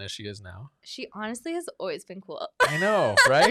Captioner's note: laughs